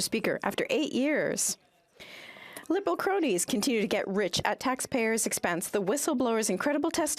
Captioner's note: speaking French